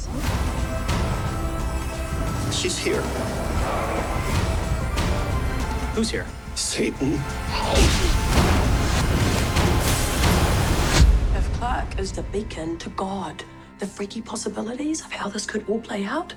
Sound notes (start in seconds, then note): 3.1 tires skid; 9.4 music intensifying